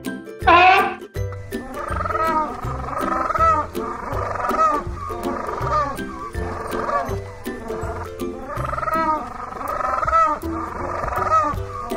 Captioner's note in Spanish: sonido pinguino